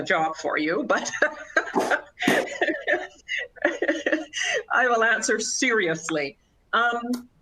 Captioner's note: laughter